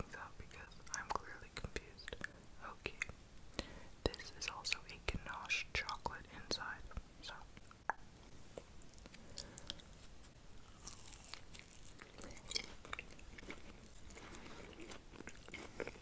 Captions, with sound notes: because I'm clearly confused. Okay, this is also a ganache chocolate inside, so. (candy crunching)